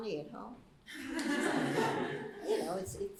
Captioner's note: laughter